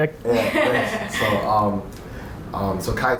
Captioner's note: laughing